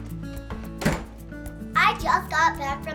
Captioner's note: door slams